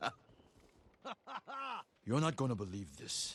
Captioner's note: laughs